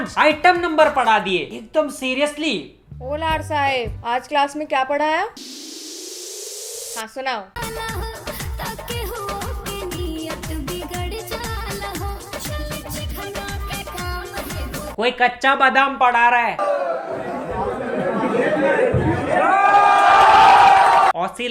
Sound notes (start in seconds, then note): 16.8 general chattering; 18.5 audience cheers because why not